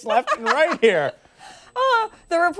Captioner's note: laughter